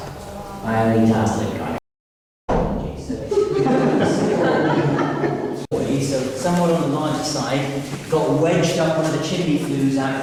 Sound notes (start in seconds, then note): 2.5 bang; 3.3 laughing